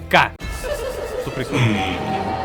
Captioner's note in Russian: Отдалённый смех